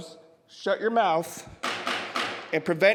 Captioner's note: gavel banging